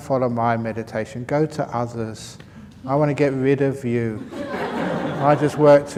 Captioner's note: laughter